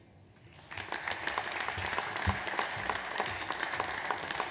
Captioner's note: audience applauds